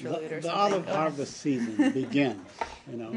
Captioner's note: laughter